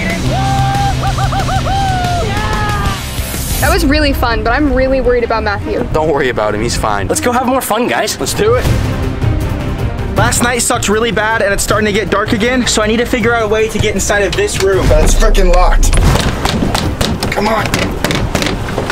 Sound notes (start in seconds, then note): 9.2 steady music; 15.7 door thudding